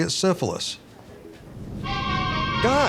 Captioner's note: phone beeping; dramatic music ringtone